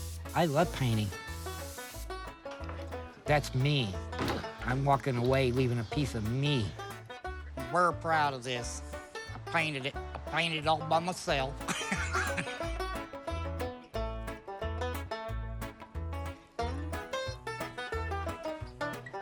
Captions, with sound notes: I love painting. That's me. I'm walking away, leaving a piece of me. I'm very proud of this. I painted it. I painted it all by myself. [laughing]